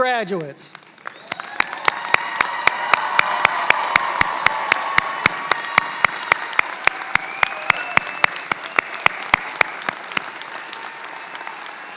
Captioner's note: applause